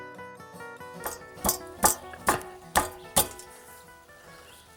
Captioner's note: metal clinging